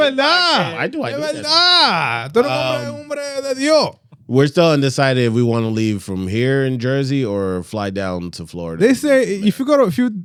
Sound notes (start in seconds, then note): 0.7 speaking Spanish